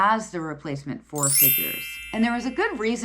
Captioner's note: chiming notification bell dings